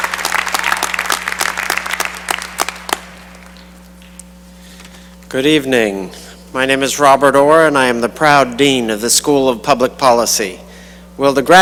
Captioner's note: cheering and applause